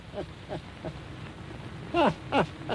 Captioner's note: laughing